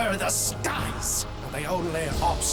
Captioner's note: none